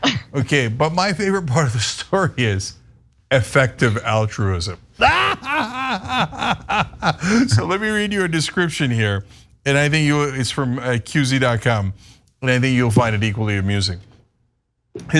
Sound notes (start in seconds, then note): 5.0 laugh